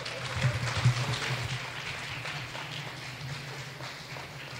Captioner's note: clapping